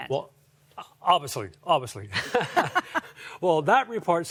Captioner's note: giggling